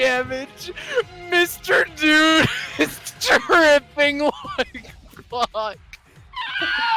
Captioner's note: laughs